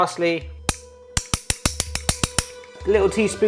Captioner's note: spoons clattering